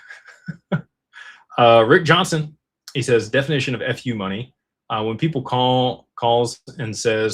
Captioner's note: laughter